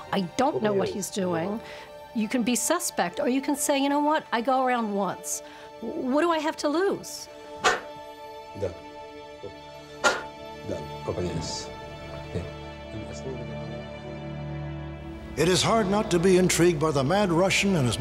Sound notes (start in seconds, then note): 10.0 forceful exhale